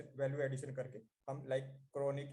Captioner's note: foreign